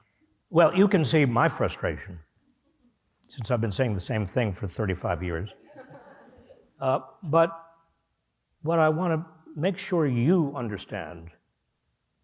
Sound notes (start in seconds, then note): 5.5 laughter